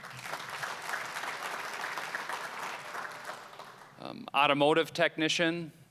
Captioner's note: applause